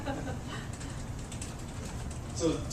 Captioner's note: laugh